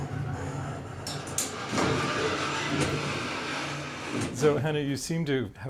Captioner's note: mechanical sounds